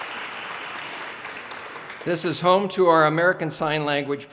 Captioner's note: audience cheers and applause